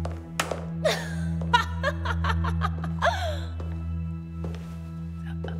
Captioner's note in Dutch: Elisabeth lacht